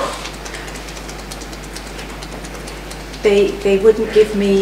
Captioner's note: fingers tapping